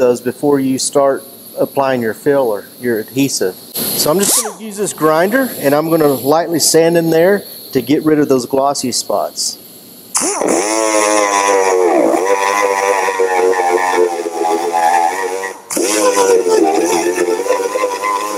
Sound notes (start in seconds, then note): 10.4 loud grinding sounds